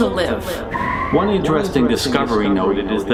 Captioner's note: eerie squealing